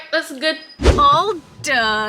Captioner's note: whooshing sound